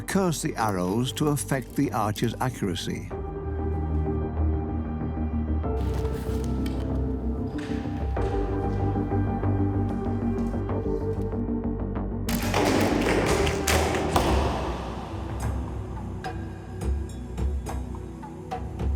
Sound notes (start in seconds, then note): 5.7 dramatic music; 12.3 arrows being fired and striking target